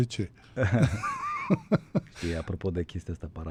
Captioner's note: laughter